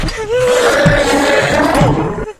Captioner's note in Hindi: स्नेहा के रोने की आवाज